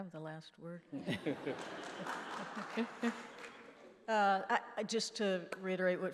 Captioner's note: laughing